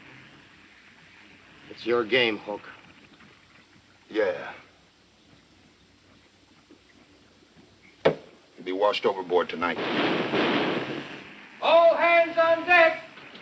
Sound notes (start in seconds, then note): 9.8 loud knocking